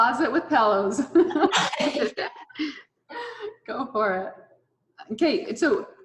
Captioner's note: all laughing